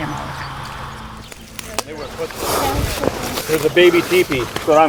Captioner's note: eerie music; background chattering